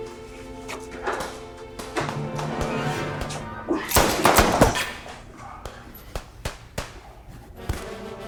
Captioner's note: guns firing